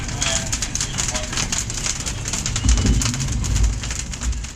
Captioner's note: fire crackling